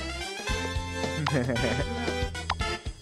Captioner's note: immature giggles